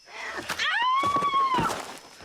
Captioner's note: screaming